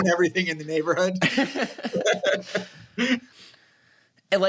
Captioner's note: laughter